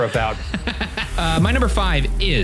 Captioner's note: laughing